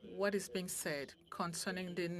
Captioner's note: speaking French